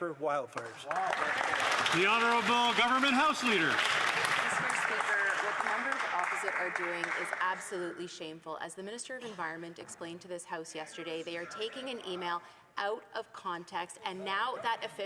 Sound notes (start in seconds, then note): 5.3 some Applause